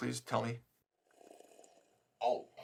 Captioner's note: Bhatt slurping